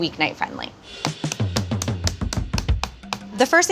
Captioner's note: meat tenderizer pounding